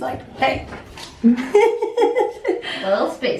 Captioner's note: laughter